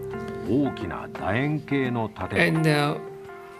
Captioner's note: speaking japanese